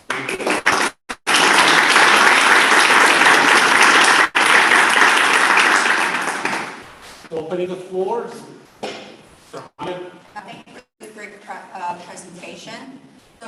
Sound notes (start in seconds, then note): 0.0 applause; 8.8 thud